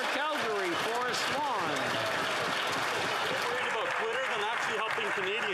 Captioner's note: applause